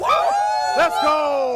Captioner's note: cheering